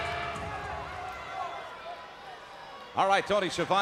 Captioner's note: crowd cheering